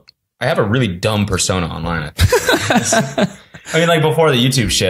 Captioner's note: laughs